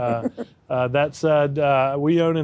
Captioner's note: laughs